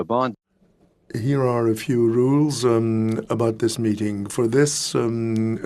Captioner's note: speaking French